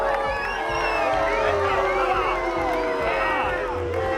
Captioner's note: crowd booing